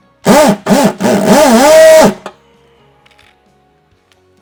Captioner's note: drill humming